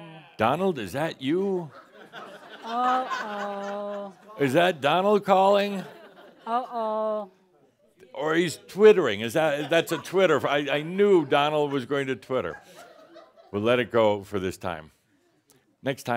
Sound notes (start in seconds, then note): 13.7 more chuckles